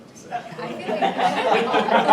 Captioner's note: audience laughing